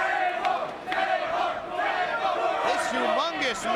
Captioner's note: crowd exclaiming; crowd chanting